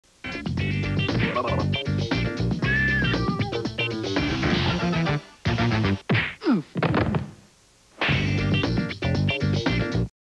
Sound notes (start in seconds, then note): 0.2 jazzy music plays; 6.4 both fall, music stops; 8.0 smack